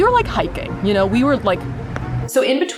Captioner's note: stomping sounds